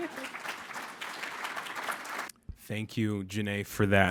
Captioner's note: applause